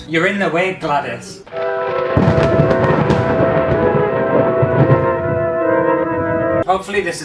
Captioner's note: thunder Crashing; creepy Music